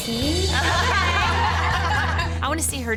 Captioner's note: laughter